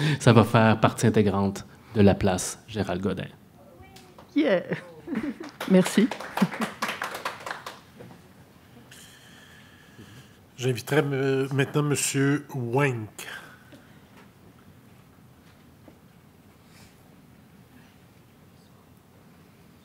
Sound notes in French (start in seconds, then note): 3.3 applaudissements